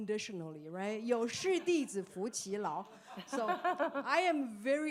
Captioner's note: speaking foreign language